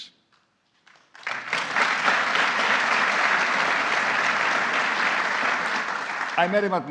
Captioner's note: applause